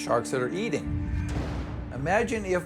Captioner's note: bang and splash